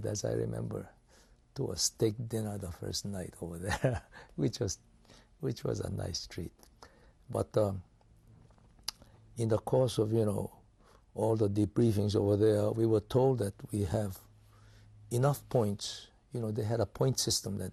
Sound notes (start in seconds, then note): 3.6 laughs